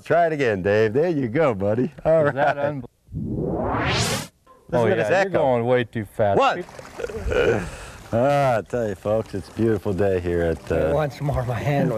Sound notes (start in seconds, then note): 7.0 laughter